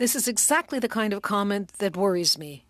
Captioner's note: speaking French